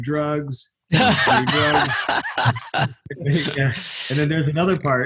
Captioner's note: laugh